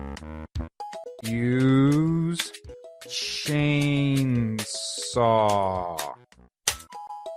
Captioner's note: typing on keyboard